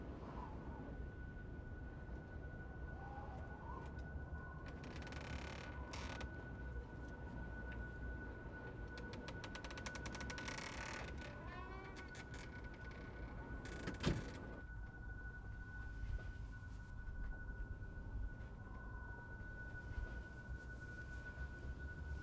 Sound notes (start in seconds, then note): 0.1 wind whistles; 4.6 door creaks; 13.7 door closes; 18.6 muffled wind whistles